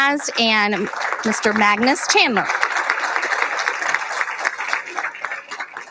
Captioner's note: applauding